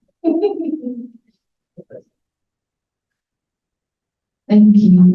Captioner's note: laughs